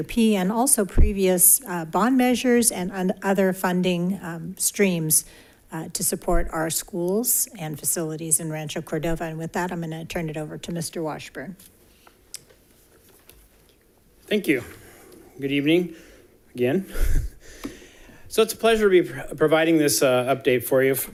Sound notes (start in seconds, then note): 16.8 chuckling